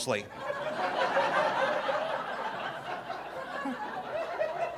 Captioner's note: audience laughing